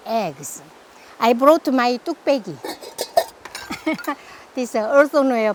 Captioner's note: laughs